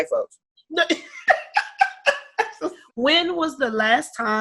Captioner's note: laughing